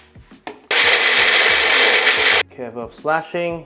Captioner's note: blender sound